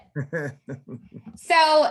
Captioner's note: laughs